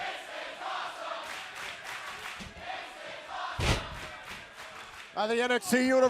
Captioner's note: crowd cheering